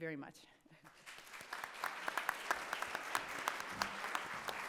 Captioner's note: audience clapping